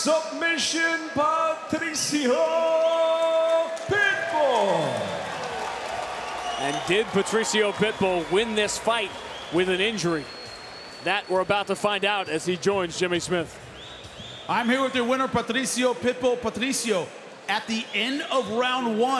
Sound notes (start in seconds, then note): 5.5 audience cheering